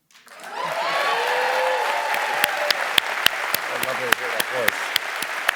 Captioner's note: cheers and applause